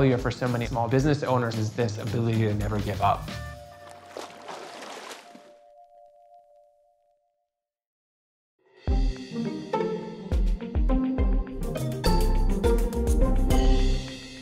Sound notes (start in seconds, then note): 3.2 water splashes; 9.0 gentle music